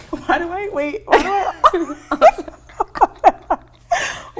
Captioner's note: laughing